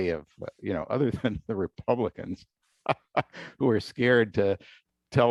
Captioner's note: laughter